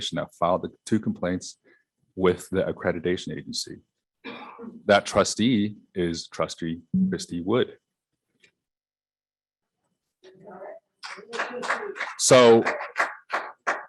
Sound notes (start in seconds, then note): 11.0 scattered applause